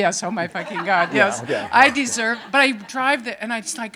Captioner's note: audience laughing